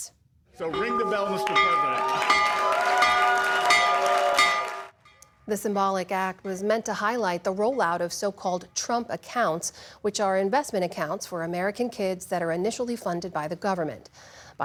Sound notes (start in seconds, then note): 3.7 bell ringing